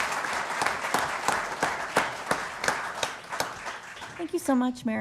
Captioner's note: applause